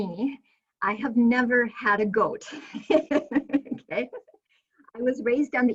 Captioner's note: laughing